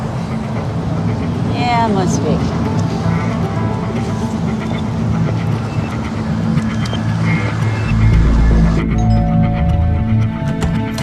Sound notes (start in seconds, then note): 8.9 doorbell dings